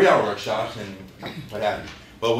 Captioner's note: laughter